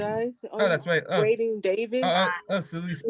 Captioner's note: student chatting